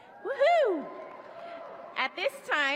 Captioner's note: cheers